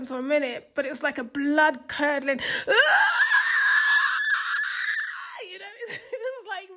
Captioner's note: screams